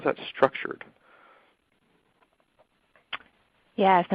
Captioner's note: silence